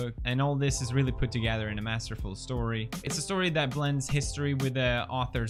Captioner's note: none